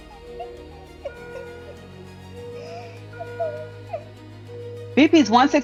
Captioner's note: Keisha crying